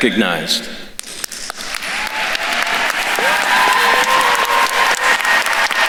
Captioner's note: attendees cheering and applauding